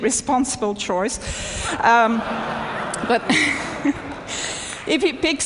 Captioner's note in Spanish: Risas